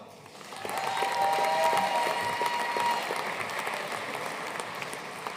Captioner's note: audience cheering and applauding